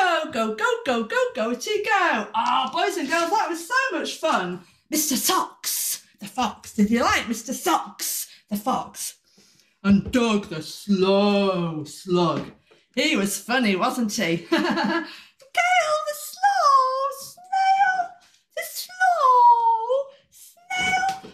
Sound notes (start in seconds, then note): 14.4 laughter